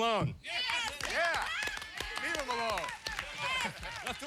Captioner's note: cheering